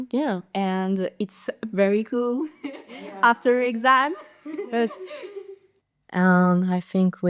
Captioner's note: laughters